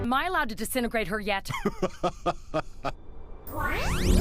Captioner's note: hearty laugh